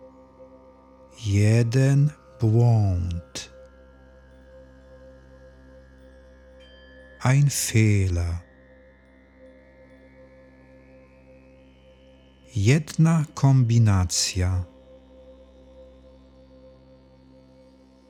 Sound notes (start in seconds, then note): 9.2 german